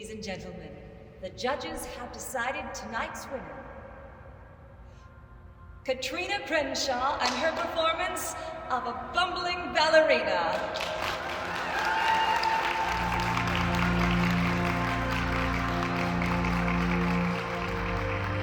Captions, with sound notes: Ladies and gentlemen, the judges have decided tonight's winner, Katrina Crenshaw and her performance of a Bumbling Ballerina! (audience clapping and cheering) (soothing music)